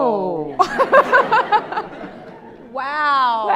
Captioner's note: all laughing